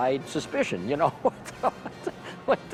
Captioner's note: laughs